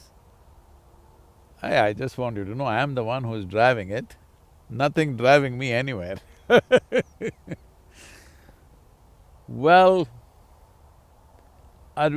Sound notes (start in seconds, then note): 6.4 laughs